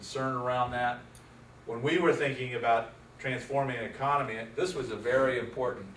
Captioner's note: none